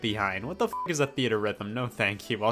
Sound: beep

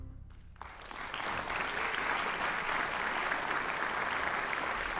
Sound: audience applauds

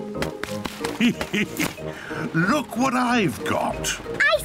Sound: laughs

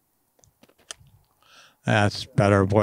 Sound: loud thump from golf club

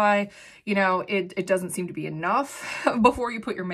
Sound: chuckles

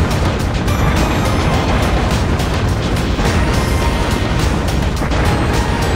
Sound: game audio

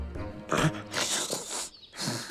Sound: sniffing

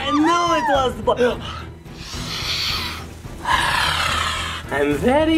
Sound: sniffing intensely

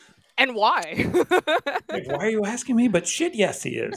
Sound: chuckles; laughs

